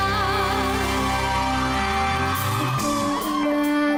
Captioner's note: audience cheering